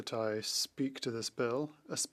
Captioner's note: speaking French